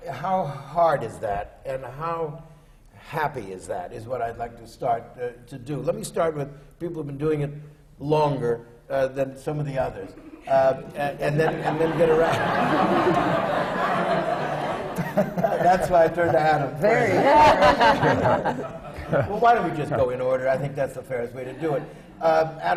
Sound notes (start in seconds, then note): 10.7 laughter from the panel; 14.0 laughter